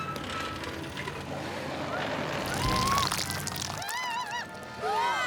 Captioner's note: bus Creaking; engine Revving